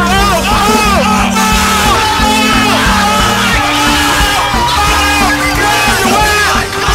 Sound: yelling

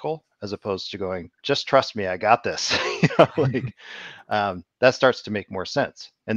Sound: laughs

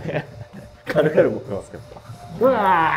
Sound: laughing

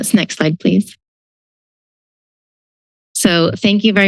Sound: silence

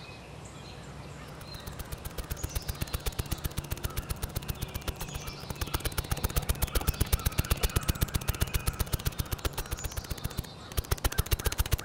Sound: snapping

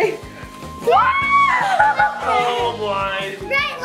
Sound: mom screams

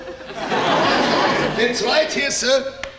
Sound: audience laughing

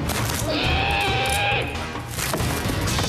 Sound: uncomfortable screaming

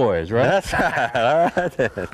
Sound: laughter

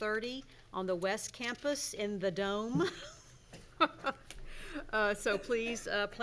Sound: laughs

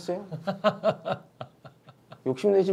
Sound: chuckling

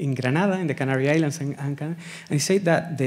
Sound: speaking Spanish

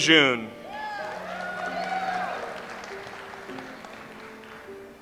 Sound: audience applauds

